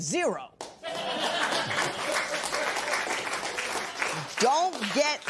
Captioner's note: laughter and applause